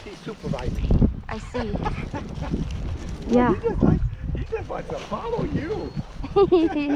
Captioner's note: laughs